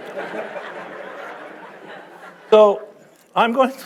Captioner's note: audience laughing